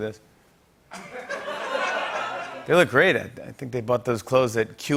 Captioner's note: laughter